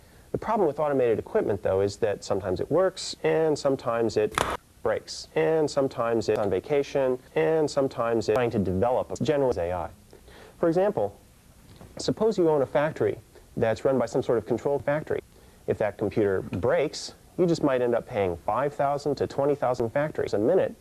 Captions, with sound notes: The problem with automated equipment though, is that sometimes it works, and sometimes it [SNAP] breaks. And sometimes it's on vacation, and sometimes it's trying to develop a general AI. For example, suppose you own a factory, that's run by some sort of control factory. If that computer breaks, you just might end up paying five thousand to twenty thousand factories a minute,